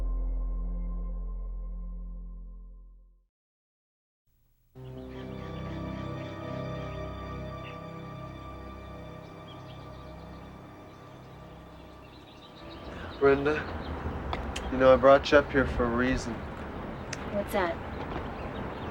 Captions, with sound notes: (silence) (slow, ominous music) (birds twittering) - Brenda, you know I brought you up here for a reason. - What's that?